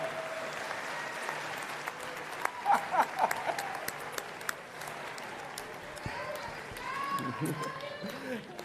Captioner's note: applause